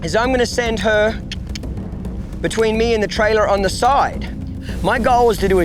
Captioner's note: tongue clicks